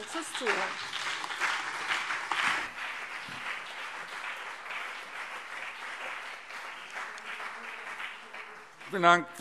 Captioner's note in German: Beifall BÜNDNIS 90/DIE GRÜNEN und vereinzelt CDU